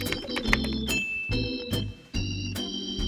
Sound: text clicking; bell dinging; positive music

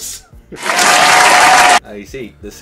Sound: audience applauds

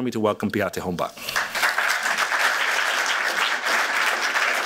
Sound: applause

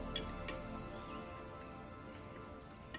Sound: none

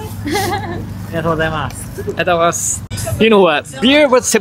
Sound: man & speak in japanese

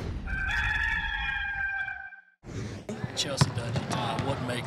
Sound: rooster crowing

